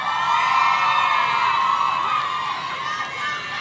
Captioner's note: audience cheering